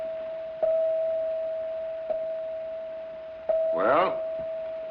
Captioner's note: clock chimes